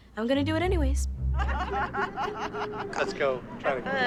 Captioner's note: laughter